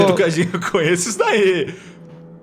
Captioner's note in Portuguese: risos